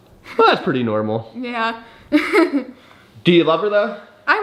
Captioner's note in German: lacht